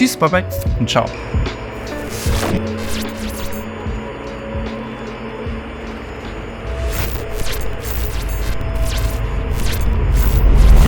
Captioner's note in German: TV-Rauschen